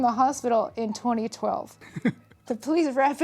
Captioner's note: laughs